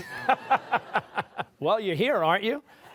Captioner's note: laughter